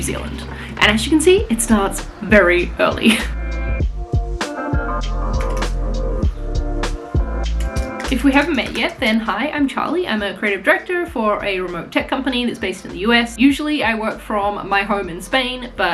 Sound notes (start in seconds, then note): 4.0 lively music; 5.2 keys typing